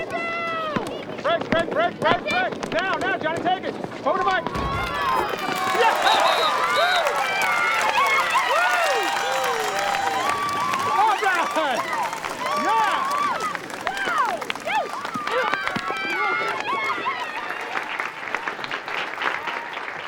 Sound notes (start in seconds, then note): 5.8 all cheering and applauding; 16.7 audience applauding